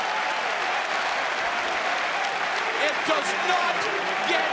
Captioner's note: crowd cheering